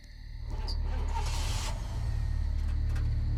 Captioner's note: engine starts